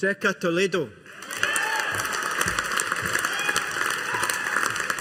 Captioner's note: audience applauding